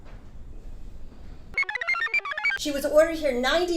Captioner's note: computer chirps